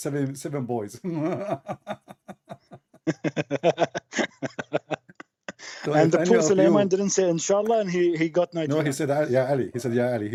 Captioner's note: Ketawa